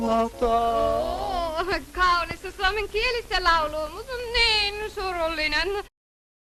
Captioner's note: in foreign accent